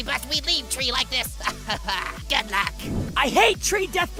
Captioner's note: Golf Ball laughs